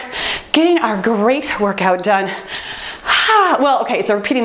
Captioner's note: timer beeps